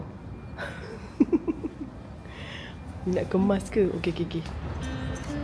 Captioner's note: laugh